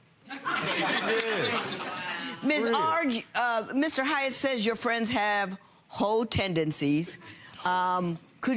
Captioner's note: audience laughing